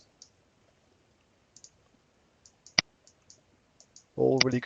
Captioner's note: mouse clicking